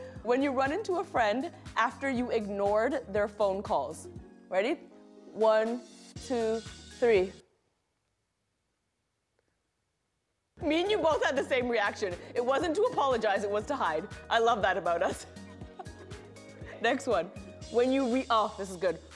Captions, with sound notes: "When you run into a friend after you ignored their phone calls." Ready? One, two, three. Me and you both had the same reaction. It wasn't to apologize. It was to hide. I love that about us. [both laugh] Next one. "When you re"-- oh, this is good.